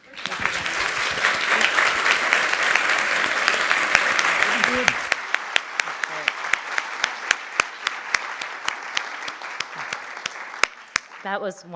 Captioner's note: applause